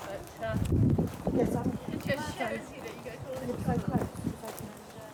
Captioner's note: wind noise and chatter